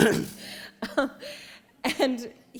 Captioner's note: laughter